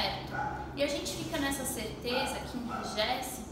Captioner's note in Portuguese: none